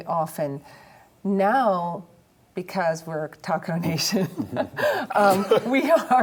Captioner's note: laughs